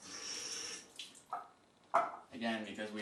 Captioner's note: water spattering in sink